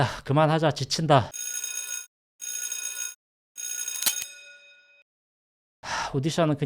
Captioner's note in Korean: 전화끊음